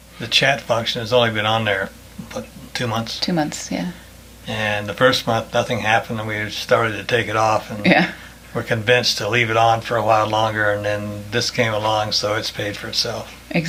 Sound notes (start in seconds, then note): 7.8 laughs